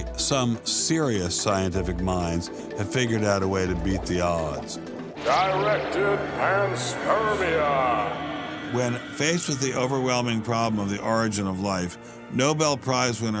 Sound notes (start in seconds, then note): 6.1 man reads in ominous voice